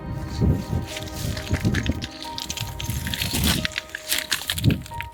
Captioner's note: rustling throughout